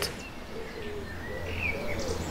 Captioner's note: forest noises